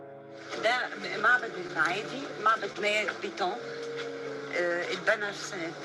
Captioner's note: speaking in foreign language